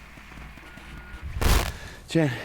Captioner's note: static; breathing heavily